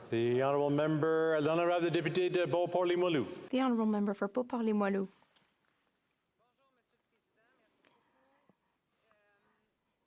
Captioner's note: speaking French